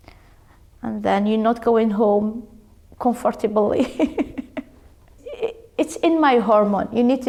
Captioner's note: laughs